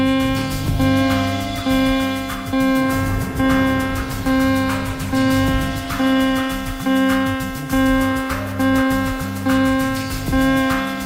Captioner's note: sirens and flashing lights